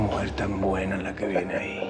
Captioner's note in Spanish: se ríe